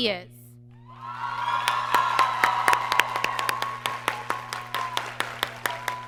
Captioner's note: audience applauds and cheers